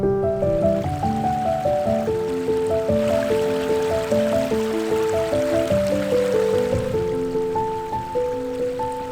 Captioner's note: trickling water sound